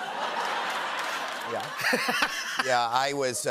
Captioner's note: laughter